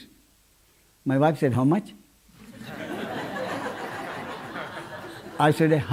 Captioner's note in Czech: smích